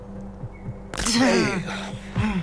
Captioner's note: bones crunching